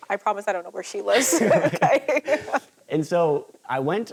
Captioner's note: laughing